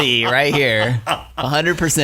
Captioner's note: laughing